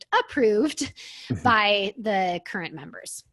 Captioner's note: laughs